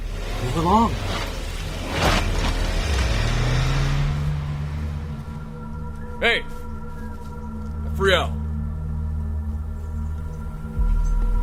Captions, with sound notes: Move along. [car drives away] Hey! Afriel!